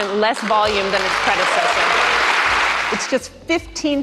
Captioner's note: clapping